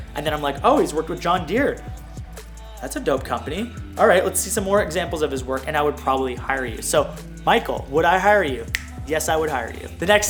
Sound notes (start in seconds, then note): 8.7 snap